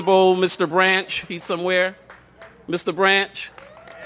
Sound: cheers and applause

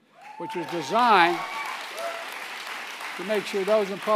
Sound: applause

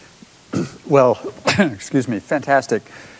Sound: coughs

